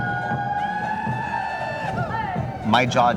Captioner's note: group chanting